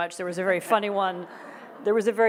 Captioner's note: audience laughs